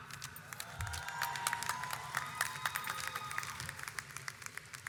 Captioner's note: audience applauds